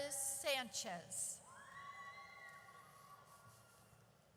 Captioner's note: audience cheers